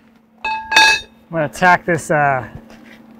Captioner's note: metal clanking